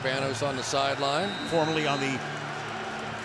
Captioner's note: cheering